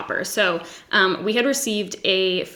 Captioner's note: none